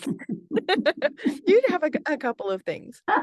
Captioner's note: laughs; laughing